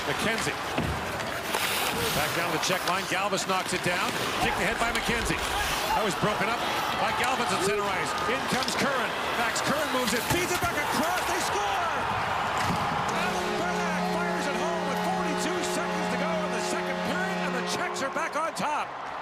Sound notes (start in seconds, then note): 10.2 horn; 10.6 cheering